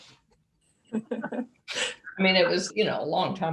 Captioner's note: laughs